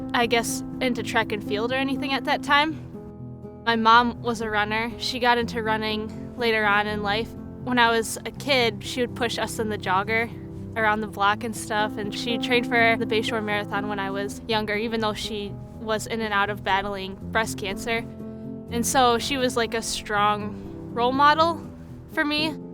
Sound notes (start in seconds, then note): none